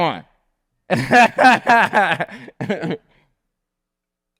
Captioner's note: laughs